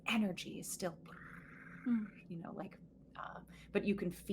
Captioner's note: bird purs